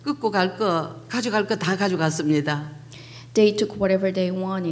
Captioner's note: speaking foreign language